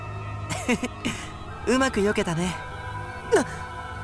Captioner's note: chuckle